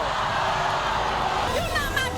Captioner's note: audience screams